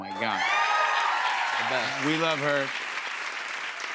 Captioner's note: cheers and applause